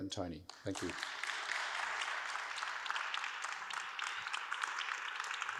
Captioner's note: audience applauds